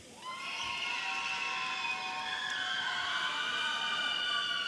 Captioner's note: audience cheering